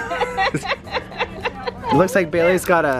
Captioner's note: laughter